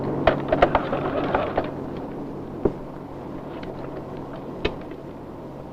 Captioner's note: speaking in foreign language